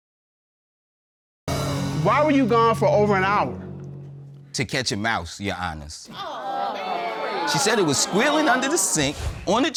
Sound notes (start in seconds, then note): 6.1 audience exclaims